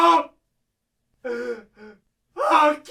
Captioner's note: sobs